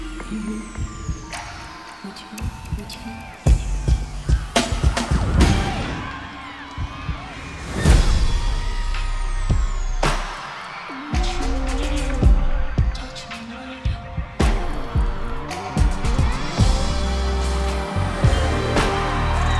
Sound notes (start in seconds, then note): 5.4 crowd cheering continues; 12.8 slow hip-hop music continues